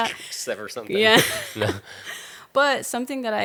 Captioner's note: both laughing